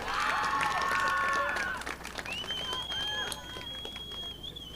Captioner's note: audience applauding